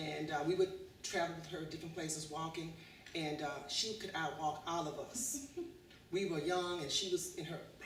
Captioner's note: laughter